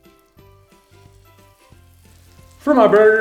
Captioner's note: meat sizzling